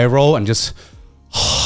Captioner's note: sighs